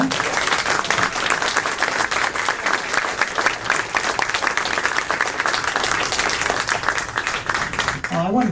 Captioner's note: applause